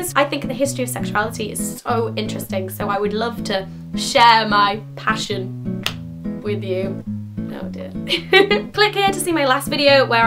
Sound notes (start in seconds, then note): 8.1 laughs